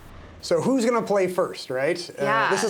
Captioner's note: whooshing